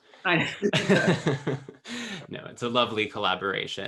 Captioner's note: laughs